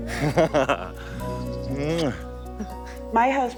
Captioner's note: laughs; kisses